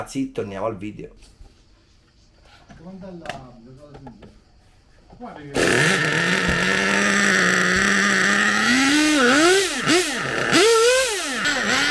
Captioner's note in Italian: engine sound